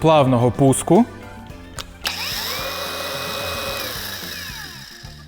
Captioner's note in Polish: dźwięk szlifierki